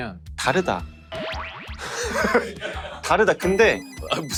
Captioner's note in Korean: 익살스러운 효과음